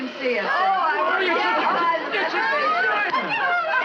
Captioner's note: everyone Talking